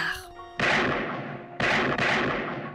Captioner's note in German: Schüsse